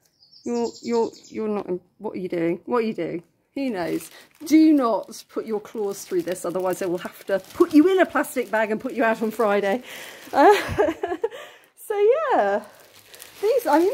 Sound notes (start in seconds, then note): 10.4 laughing